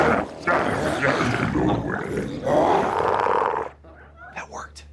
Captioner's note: glowzies grunting continues